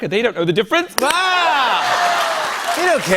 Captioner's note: laughter and applause